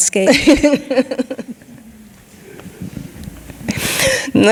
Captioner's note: laughing